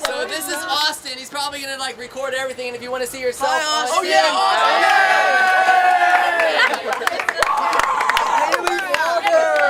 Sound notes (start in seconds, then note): 3.0 crowd chattering, yelling